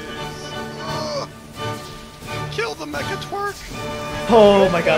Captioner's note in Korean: 신음소리